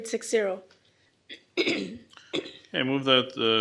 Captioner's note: clears throat